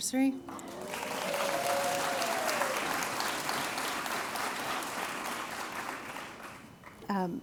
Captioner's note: applause